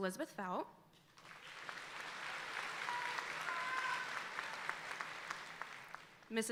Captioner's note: audience applauding